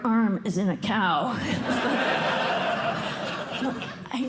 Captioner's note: laughter